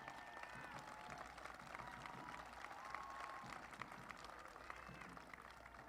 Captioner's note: applause